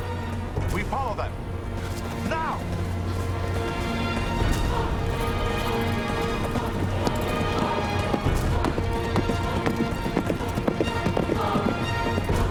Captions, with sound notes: We follow them! Now! (horses galloping)